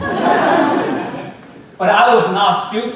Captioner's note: audience laughing